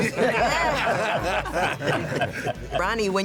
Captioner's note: laughter